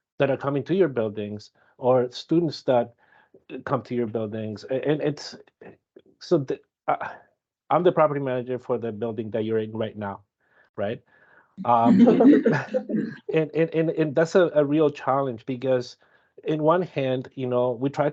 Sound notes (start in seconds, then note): 11.7 audience laughing